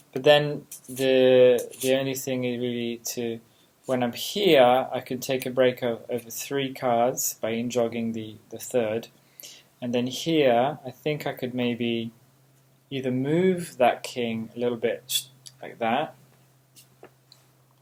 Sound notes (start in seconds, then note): none